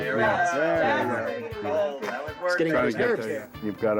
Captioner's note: chatter